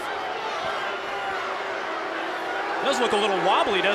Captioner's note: crowd cheering